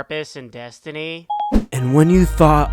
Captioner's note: Siri exit sound